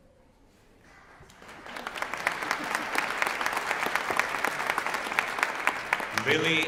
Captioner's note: applause